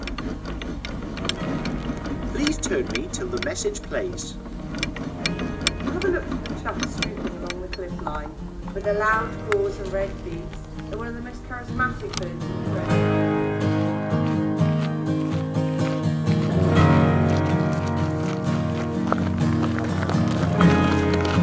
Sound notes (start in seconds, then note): 0.1 sounds of handle being turned; 6.3 sound of voice from the talking label